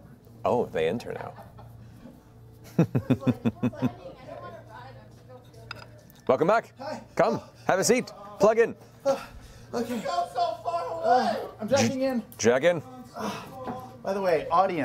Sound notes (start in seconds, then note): 2.7 laughs